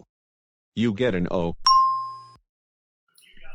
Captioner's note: ding!